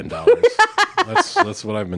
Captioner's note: laughs